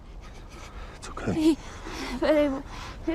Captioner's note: ellie stammers